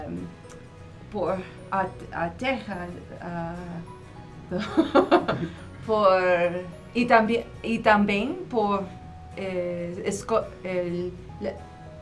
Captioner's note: haha!